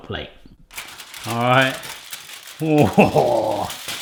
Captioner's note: metallic crunching